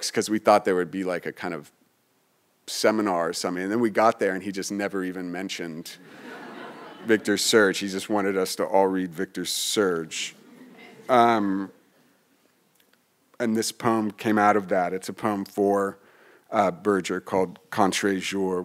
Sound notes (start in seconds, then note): 6.0 audience laughing